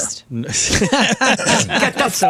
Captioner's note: laughing